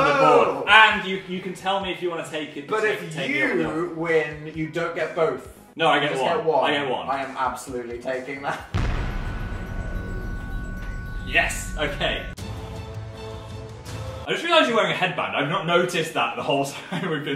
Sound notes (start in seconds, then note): 0.0 laughs; 8.7 handshake booming; 8.7 tense music; 12.1 intense music